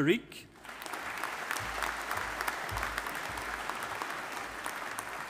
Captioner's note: audience applauding